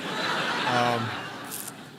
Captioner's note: laughter